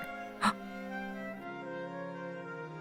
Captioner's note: gasp